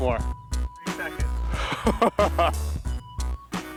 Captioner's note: chortling